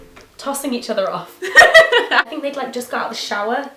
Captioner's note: laughs